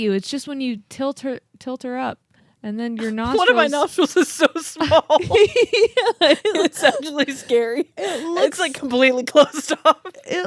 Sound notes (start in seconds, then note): 3.0 laugh